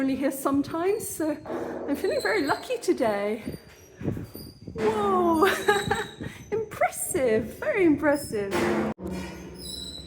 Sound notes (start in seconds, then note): 5.4 laughing